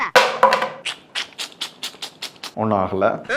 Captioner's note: smacking lips!